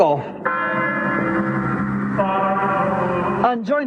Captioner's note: single big bell chime